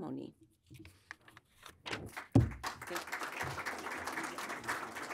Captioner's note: audience applauding